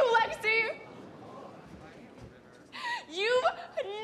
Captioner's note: crowd murmurs